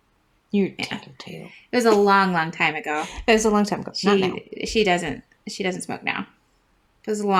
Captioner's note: laugh